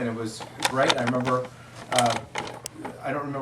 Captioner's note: video camera clicks